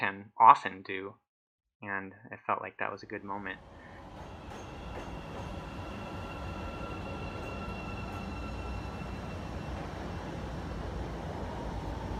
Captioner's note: train sounds